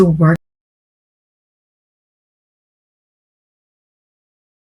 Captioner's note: audio out